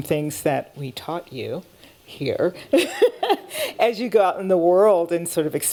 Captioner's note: laughing